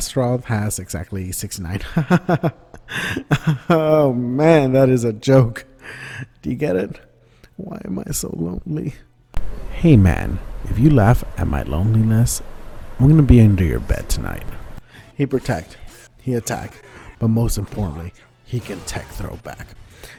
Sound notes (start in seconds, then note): 7.2 whispers